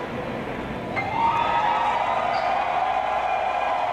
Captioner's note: cheers and applause